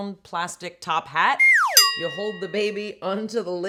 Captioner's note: sliding whistle